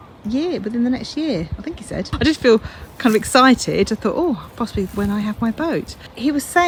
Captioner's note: laughs